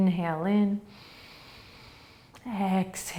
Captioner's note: inhaling